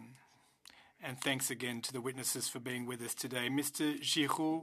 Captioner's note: speaking French